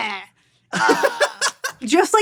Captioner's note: laughs